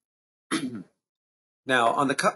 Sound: clears throat

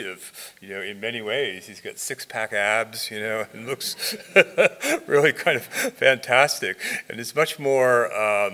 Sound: laughs

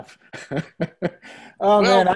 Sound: laughs

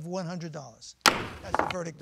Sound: gavel bangs

